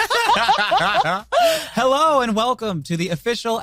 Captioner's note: laughing